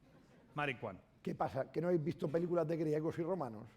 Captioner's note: speaking spanish